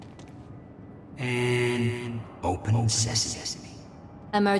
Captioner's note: as an echo from the past